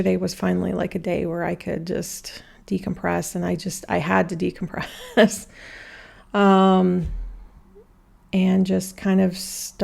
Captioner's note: laughter